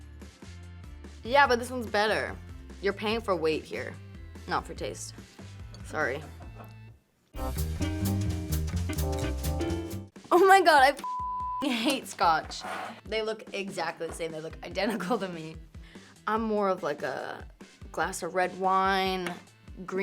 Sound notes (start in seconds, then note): 7.4 upbeat music; 11.0 beep